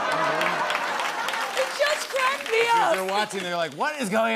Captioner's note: normal voice